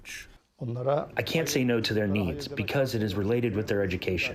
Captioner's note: through translator